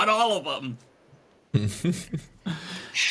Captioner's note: laughs